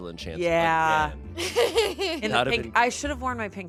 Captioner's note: laughs